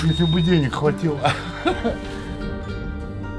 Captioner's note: laughs